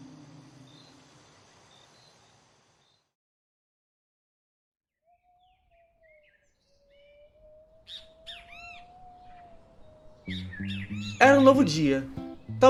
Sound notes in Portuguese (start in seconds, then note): 0.0 Sons de grilos aparecem; 2.0 Sons de grilos somem; 5.1 Sons de pássaro; 7.0 Sons de vento; 10.3 Música alegre